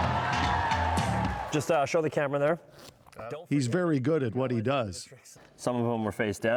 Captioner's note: cheers and Applause